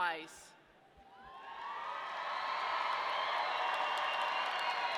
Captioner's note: audience cheering